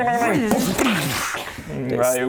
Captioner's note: boosh!